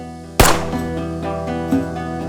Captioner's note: gun firing; dramatic guitar music